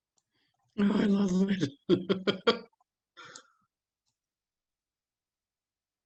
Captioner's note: laughs